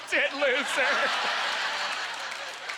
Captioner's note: audience laughter